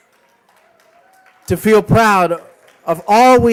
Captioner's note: applause